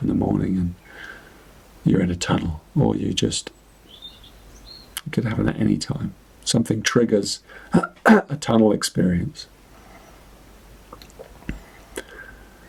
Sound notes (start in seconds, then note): 7.7 clears his throat